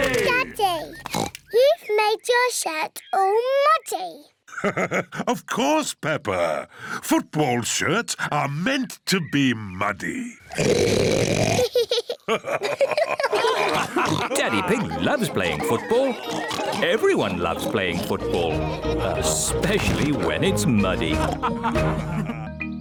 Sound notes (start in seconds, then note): 0.9 oinks; 4.5 laughs; 10.2 oinks loudly; 11.5 both laugh; 21.3 all laughing